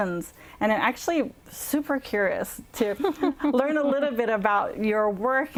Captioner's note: laughter